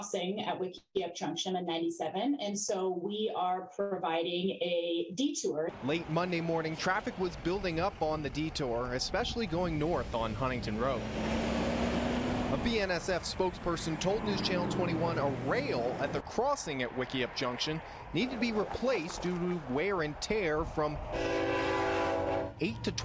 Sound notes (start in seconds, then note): 14.3 truck drives; 22.8 train horn